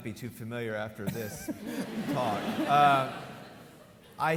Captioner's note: laughs; audience laughing